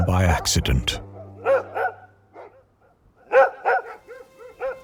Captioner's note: dogs barking